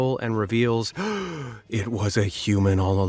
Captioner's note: gasps